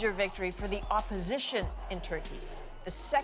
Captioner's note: cheers and Applause